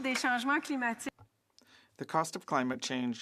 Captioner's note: speaking French